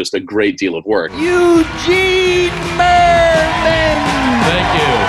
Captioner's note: crowd cheering